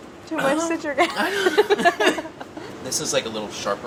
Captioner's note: laughing